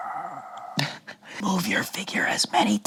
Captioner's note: laughs